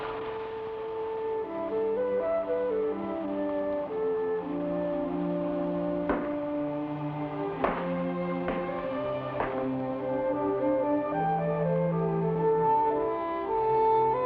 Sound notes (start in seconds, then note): 0.2 somber music; 6.1 shoes clack; 10.8 somber music